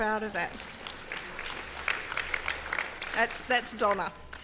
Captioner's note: applause